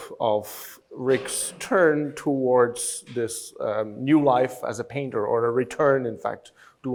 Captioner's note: none